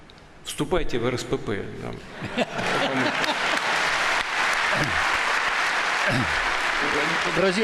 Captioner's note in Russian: Смех в зале